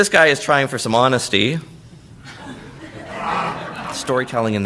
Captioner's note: laughter